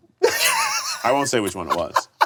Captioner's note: laughs